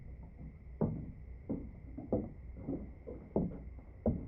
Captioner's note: footsteps approaching